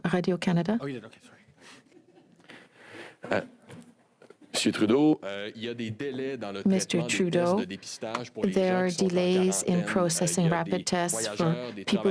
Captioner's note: speaking french